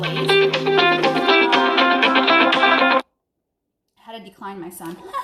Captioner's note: phone ringing